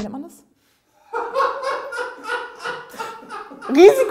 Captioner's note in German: Er lacht laut